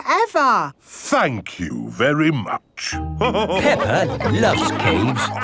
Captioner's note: all laughing